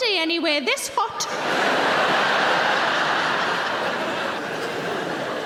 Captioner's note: audience laughs